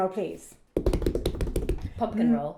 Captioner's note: hands drum on table